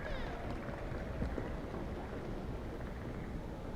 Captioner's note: applause